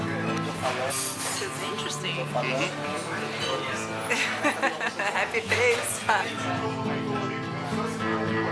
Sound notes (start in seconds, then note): 4.1 laughs